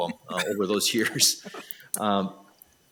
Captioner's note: laughs